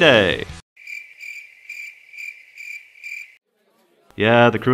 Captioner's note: crickets chirping